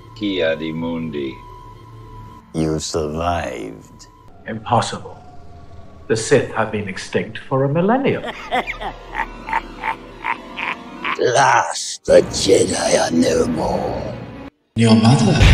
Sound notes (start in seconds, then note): 8.9 laughing